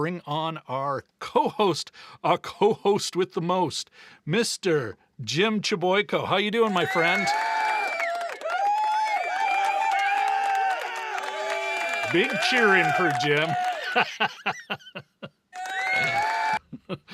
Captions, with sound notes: bring on our co-host, a co-host with the most, Mr. Jim Chliboyko. How you doing, my friend? (audience cheering) Big cheer in for Jim. (laughing)